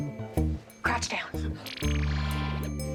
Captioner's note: whispers